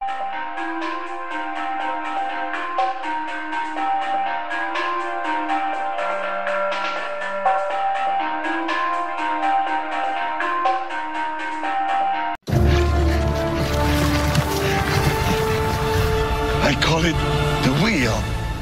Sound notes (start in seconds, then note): 12.4 dramatic music; 15.1 stone rolling